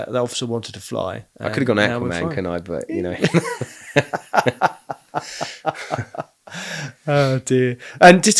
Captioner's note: laughing